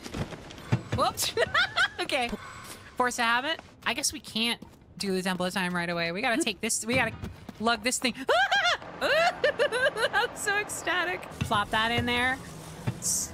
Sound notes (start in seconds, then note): 1.2 laughter